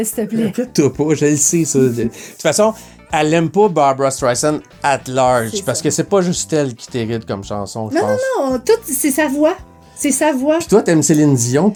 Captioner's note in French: rires